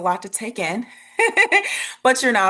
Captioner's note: chuckles